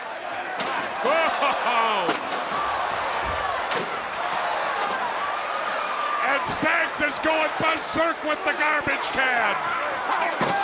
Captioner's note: laugh